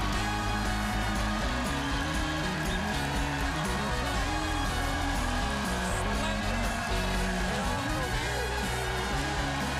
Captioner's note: cheers and applause